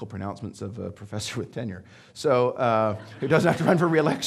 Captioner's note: audience laughing